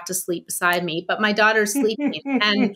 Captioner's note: laughing